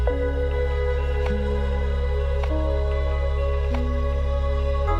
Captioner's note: beak thumping on wood